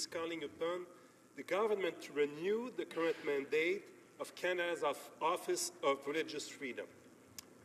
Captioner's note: speaking French